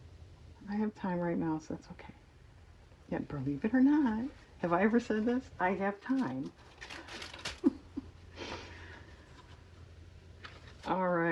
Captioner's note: laugh